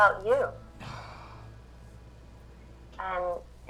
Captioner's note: sighs